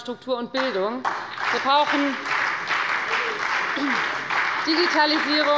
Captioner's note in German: Beifall bei der FDP und der SPD